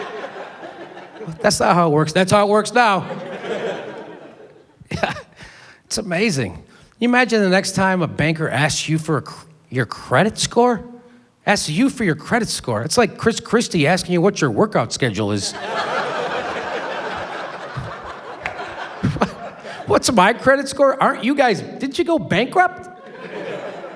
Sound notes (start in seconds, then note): 3.0 laughs; 18.6 laughs